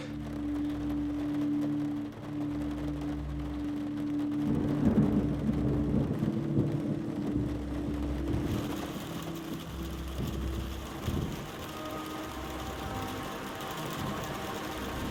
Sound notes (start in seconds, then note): 0.0 Trevor panting; 0.2 rain tapping windows; 4.7 thunder rumbling; 8.7 rain pelting; 11.5 soft dramatic music